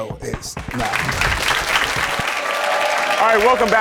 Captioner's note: audience applauds